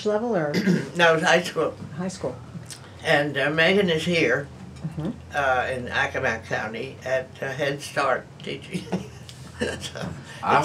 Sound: laughs

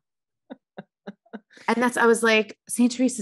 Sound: laughing

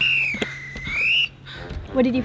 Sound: whistle blows

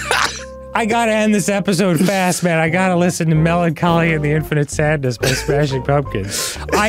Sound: laughing; laughing

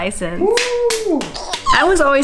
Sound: cheering

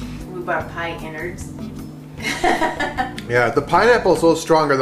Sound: laughs

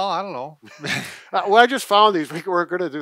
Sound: chuckles

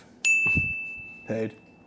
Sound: digital ding

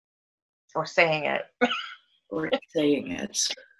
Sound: chuckles

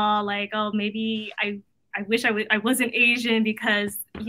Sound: none

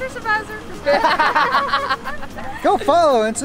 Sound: laughs; laughter

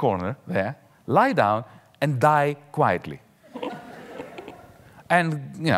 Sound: audience laughing

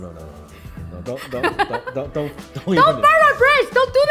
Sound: laughs

